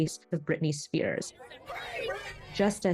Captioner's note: crowd